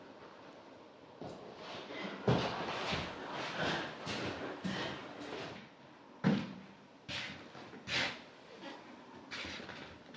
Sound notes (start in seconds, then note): 2.2 footsteps shuffling